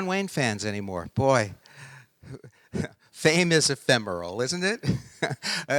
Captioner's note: laughing